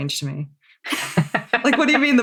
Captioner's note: laughs